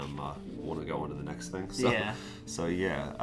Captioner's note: laughs